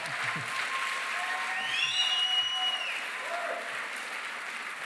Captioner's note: cheering, applause